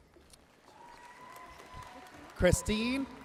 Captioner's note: audience cheering and applauding